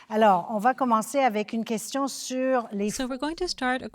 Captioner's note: speaking French